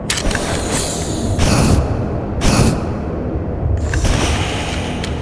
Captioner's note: flames hissing